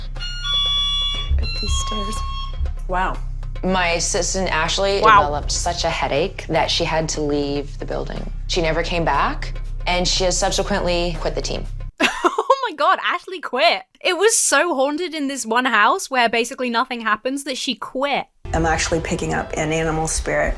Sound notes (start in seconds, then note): 0.1 something triggers alarm; 1.5 alarm blares; 12.0 laughs